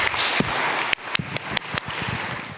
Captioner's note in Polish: oklaski